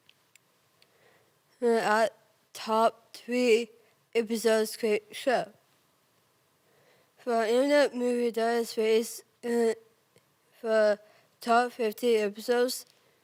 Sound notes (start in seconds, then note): 0.8 soft breathing; 6.6 soft breathing; 13.0 rustling